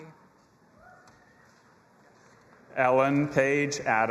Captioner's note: audience cheering